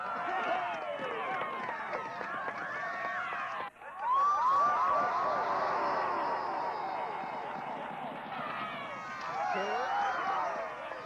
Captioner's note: cheering